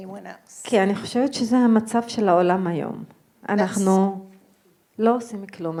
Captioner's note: speaking in foreign language